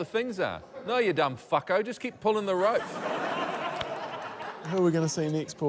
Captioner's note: laughter